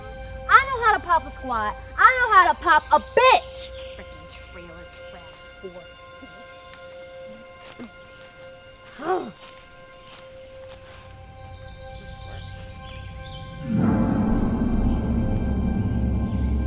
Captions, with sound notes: - I know how to pop a squat! I know how to pop a bitch! Freaking trailer trash whore. (Janet grumbles) (ominous music)